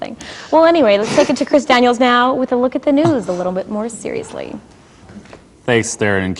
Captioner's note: laughing